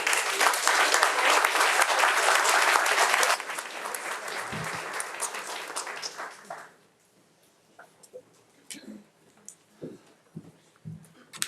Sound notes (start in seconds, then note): 0.0 audience applauding